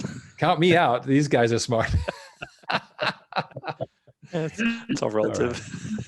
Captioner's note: all laughing